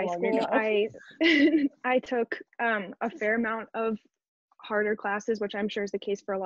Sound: laughs

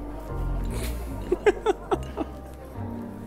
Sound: loughs

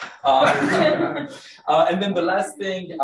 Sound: room laughs

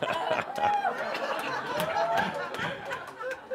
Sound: laughter

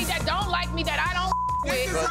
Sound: beep

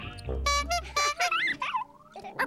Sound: horn honking

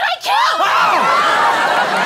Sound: screaming

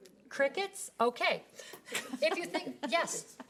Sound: woman laughing

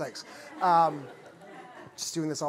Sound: laughter

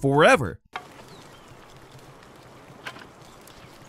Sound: birds tweet

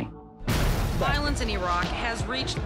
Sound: explosion rumbling

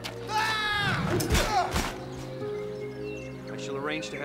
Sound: grunting

